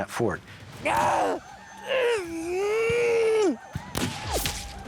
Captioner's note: man grunting; gunfire